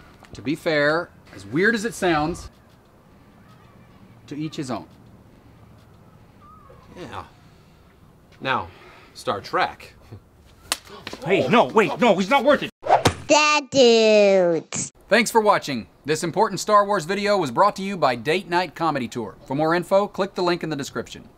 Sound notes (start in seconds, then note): 12.9 slap sound